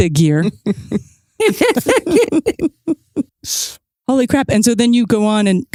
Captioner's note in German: lacht